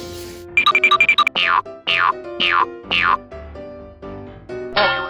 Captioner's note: cartoony blooping; boinging